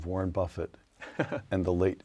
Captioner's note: laugh